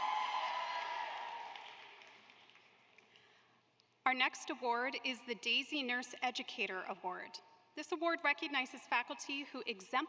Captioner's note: applause